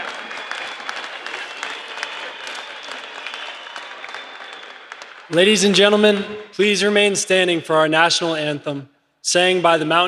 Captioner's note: applause